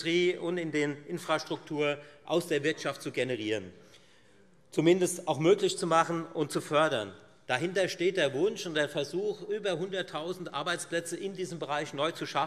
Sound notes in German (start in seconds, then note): none